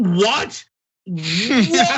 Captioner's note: laugh